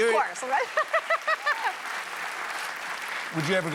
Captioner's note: applause